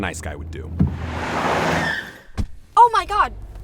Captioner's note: tire screeches